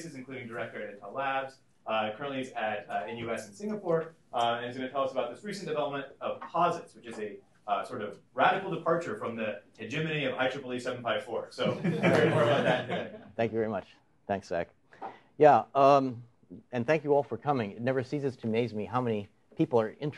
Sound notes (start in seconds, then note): 11.6 laughter